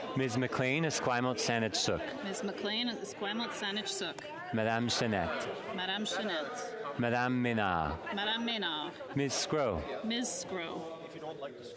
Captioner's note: calling of recorded vote